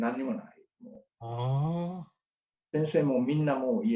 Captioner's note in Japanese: ああ